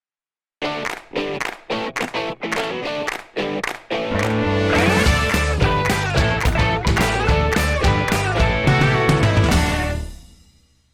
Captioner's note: claps